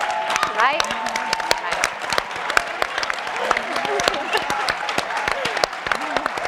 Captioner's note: audience and panelists applauding